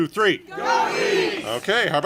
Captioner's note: congregation shouting